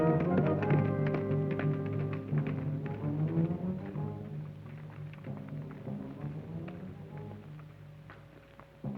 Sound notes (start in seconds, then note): 0.6 hooves clop